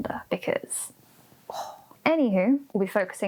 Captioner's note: makes noise for indescribable perfection